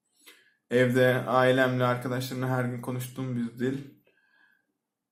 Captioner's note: Turkish